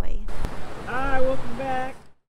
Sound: car driving

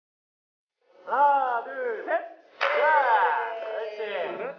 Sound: clap

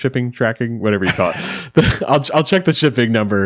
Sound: chuckles

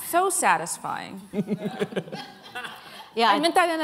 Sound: laughter

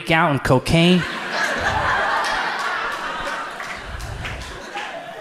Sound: audience laughs

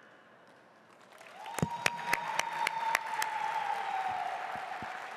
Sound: audience applauding

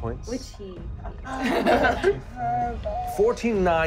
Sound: laughing

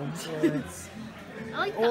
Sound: laughs

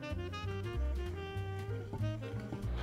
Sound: whisking

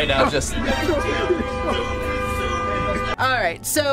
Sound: horn blares; tense orchestral sting

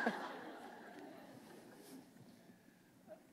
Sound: laughter

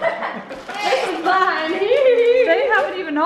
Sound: giggles

